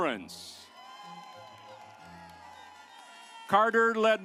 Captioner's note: audience applauds